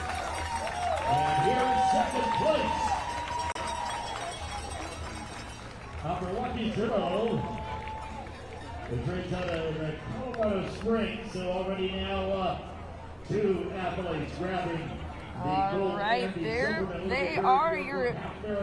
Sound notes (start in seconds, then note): 3.4 cheering